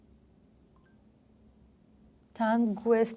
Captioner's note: Russian